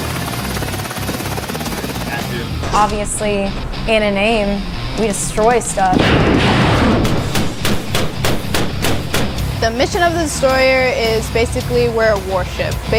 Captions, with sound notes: (helicopter blades whirring) - Obviously, in a name, we destroy stuff. (device exploding) (weapon firing) - The mission of the destroyer is basically we're a warship.